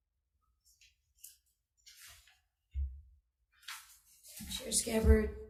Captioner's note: paper rustling loudly